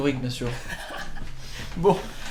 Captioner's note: laugh